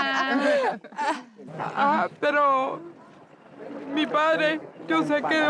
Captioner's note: laughter; crying